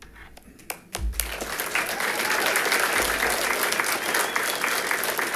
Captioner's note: audience applauding